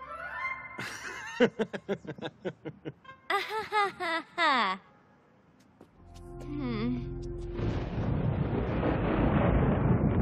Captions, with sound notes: Never mind. (Laughing) (Mock laughter) Hm. (Thunder crashing)